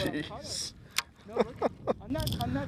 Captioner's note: laughter